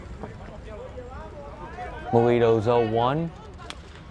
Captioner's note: players yelling in foreign language